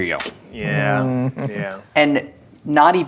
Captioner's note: chuckling